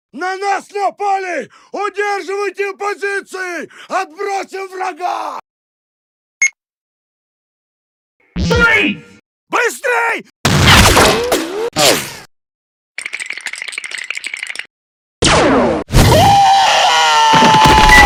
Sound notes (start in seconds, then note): 10.6 ricochet